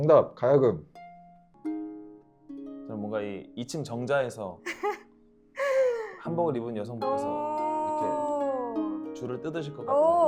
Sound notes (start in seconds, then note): 4.7 laughs